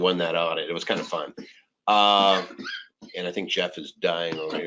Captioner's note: coughing